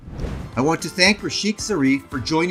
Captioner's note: whooshing sounds